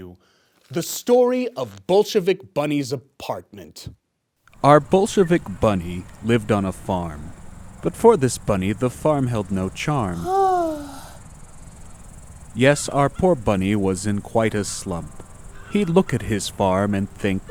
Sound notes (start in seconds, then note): 10.0 BOLSHEVIK BUNNY sighs